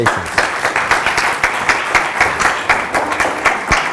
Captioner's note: applause